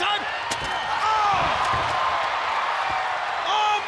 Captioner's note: spectators scream